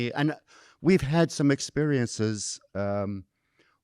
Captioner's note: none